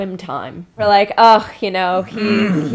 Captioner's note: sigh